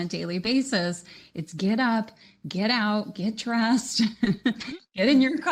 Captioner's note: chuckles